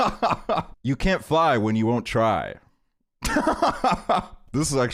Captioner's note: laughs; laughs